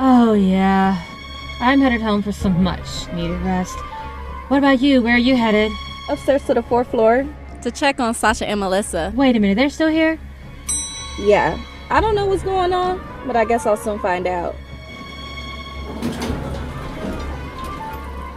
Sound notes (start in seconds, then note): 10.6 elevator dings